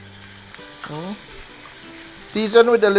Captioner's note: sizzle